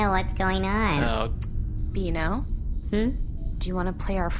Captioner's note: Pleck makes unhappy noises; parental chiding tone